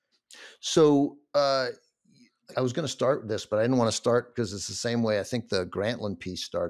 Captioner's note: none